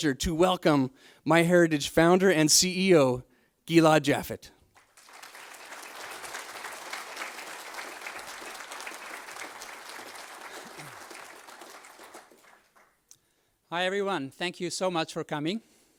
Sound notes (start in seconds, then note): 4.7 audience applauds